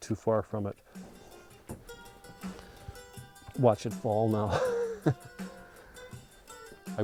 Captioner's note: laughs